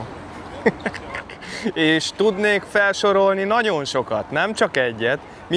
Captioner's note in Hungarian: nevetés